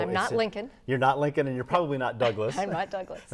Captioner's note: laughing